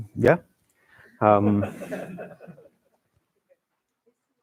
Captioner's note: laughter